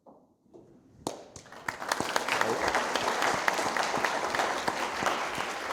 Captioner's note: audience applauding